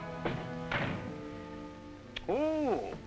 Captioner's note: door closing